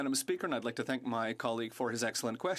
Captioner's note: speaking French